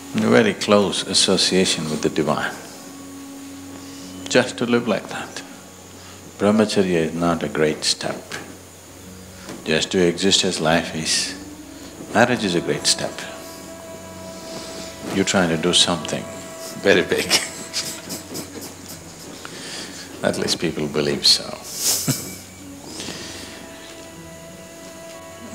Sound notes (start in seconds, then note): 19.1 laughs; 24.2 laughs